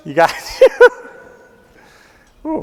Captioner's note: laughing